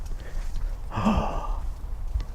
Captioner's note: gasps